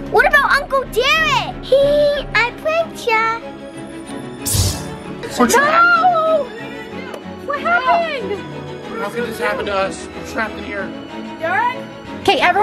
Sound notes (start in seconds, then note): none